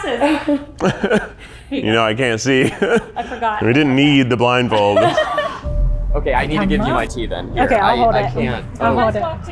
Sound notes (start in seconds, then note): 0.2 laughs; 4.9 laughing